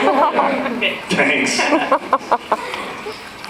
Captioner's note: laughing; laughs